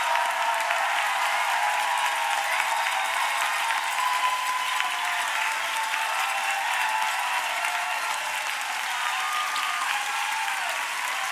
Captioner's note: applause